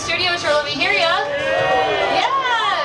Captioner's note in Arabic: هتاف الجمهور